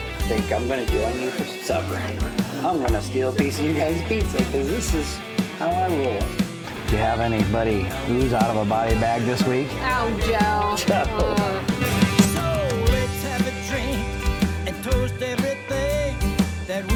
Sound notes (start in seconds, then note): 11.1 chuckles